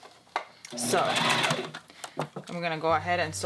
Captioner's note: sewing